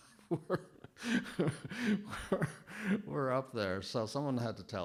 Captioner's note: chuckling